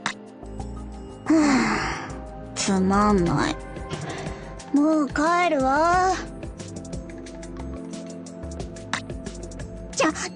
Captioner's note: sigh